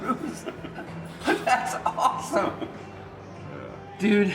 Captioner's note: laughs